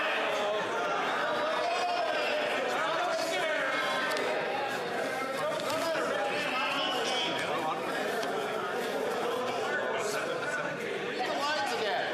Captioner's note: yelling